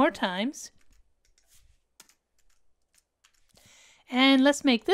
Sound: keyboard clanking

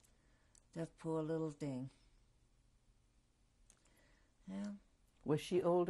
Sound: pauses for 3 seconds

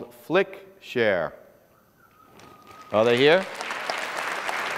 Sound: applause

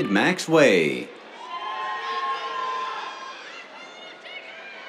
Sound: cheers

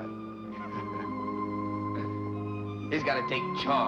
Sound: Roy laughing

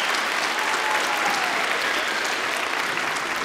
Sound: applause

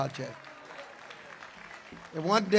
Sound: congregation applauds

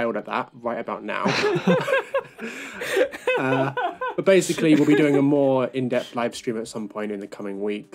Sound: laughter

